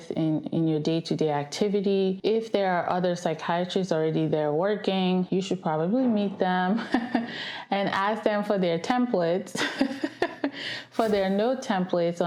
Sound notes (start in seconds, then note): 6.7 laughs; 10.3 laughs